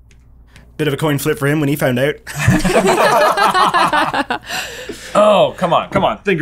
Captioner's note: laughter